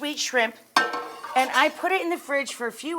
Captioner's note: pan clangs